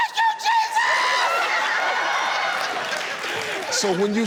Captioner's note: audience laughs